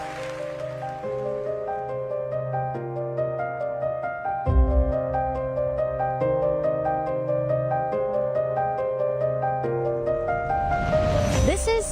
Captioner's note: applause